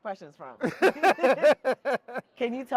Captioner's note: both laughing